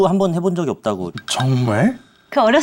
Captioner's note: hesitates